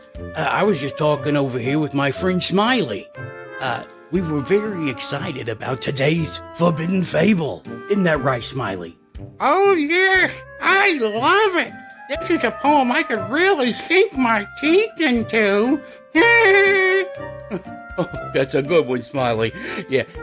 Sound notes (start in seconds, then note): 16.1 laughing